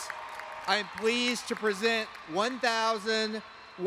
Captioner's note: applause